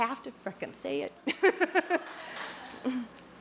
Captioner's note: laughter